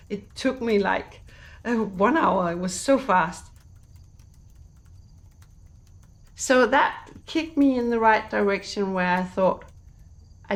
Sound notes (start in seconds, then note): 3.5 keyboard clicking